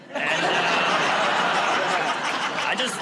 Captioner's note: laughter